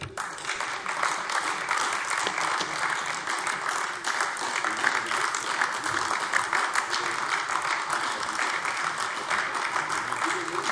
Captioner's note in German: Beifall AfD